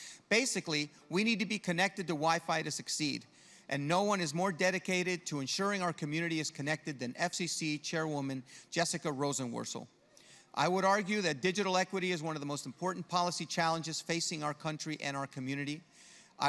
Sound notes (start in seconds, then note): none